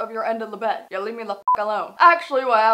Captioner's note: beep